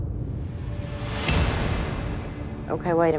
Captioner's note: swooshing